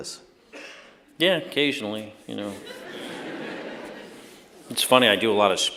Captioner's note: laughter